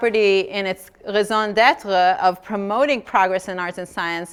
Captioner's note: speaking foreign language